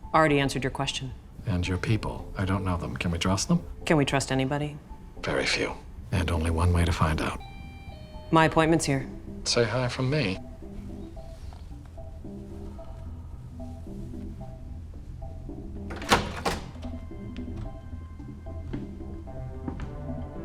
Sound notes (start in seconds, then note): 7.2 doorbell rings; 10.5 upbeat music